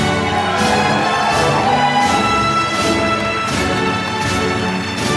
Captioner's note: applause